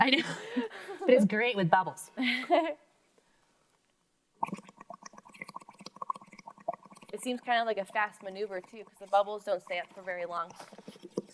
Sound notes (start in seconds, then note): 0.0 both laughing; 2.2 laughs; 4.4 bubbles gurgling